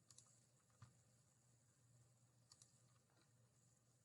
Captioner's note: mouse clickings